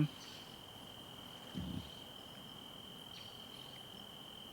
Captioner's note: crickets chirping